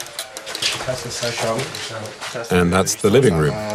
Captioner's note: foreign language